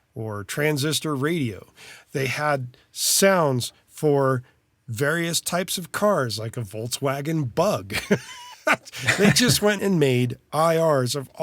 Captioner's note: laugh